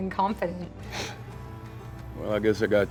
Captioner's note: scoffs